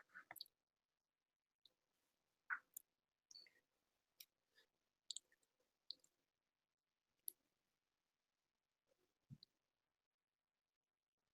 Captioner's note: silence